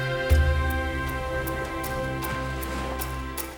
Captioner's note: water lapping